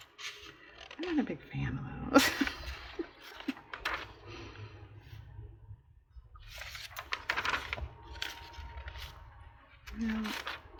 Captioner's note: laughs